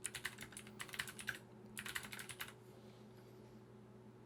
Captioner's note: computer keys clicking